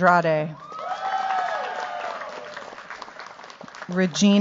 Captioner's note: cheers, applause